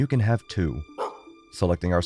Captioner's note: woof